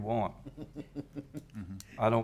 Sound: people chuckling

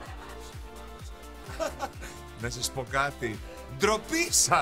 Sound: laughs

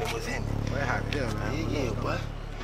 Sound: whispering

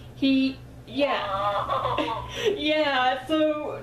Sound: laughs

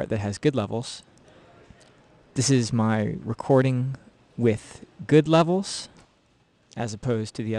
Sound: recorded sound being played back

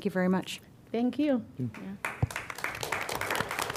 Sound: applause

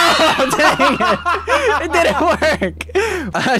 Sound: everyone laughs

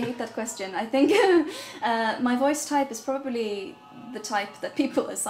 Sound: laughs

